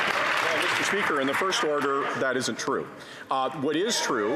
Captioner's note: some Applause